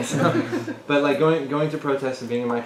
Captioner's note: laugh